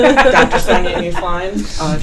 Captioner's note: laughing